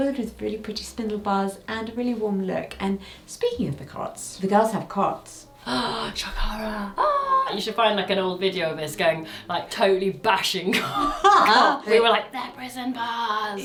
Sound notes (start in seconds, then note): 5.6 gasps; 6.9 exclaims; 10.9 laughs